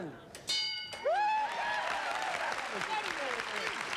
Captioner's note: applause